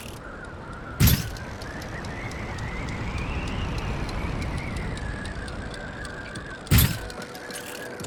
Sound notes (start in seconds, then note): 2.3 wind gushing